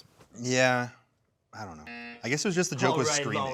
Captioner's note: buzzer buzzes